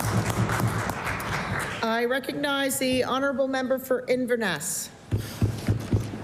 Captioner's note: applause